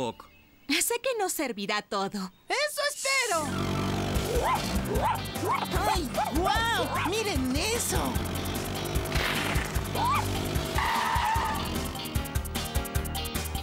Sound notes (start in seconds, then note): 4.0 excited Barking; 10.7 brakes Screech